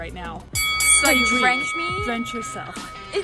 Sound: bell dings

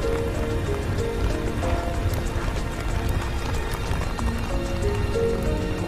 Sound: fire crackling

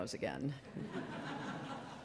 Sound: laughter

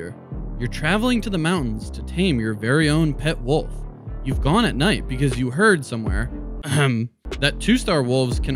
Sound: ahem

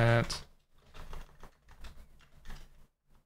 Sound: keyboard clattering

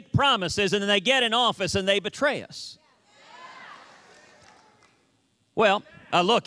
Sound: cheers and applause

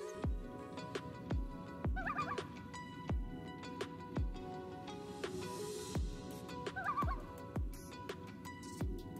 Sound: sound of a loon family calling in the background

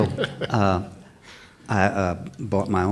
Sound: laughter

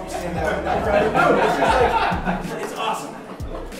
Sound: laughing

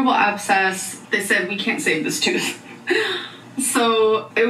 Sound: laughs

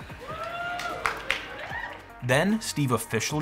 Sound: crowd cheering

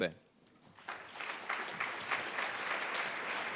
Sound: clapping

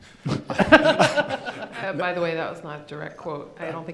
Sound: laughing

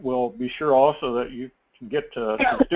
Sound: laugh; cough

